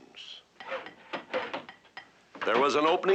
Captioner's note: hammering, sawing